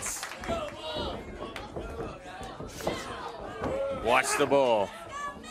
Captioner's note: crowd chatter